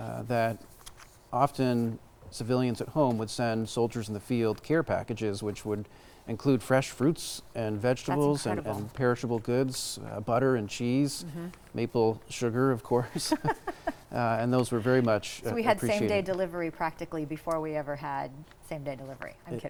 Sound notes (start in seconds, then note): 13.0 both laughing